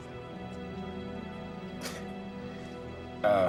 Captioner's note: chuckles